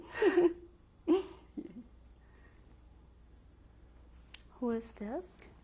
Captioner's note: laughter